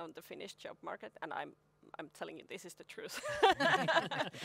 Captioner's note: laugh